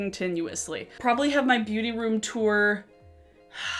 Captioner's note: sighing